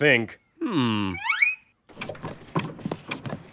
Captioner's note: head rattles as it is shaken